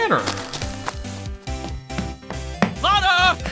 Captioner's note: rapid footsteps!